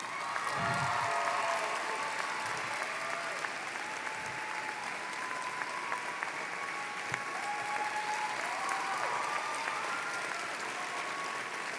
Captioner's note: applause